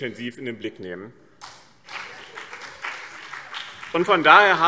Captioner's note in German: Beifall BÜNDNIS 90/DIE GRÜNEN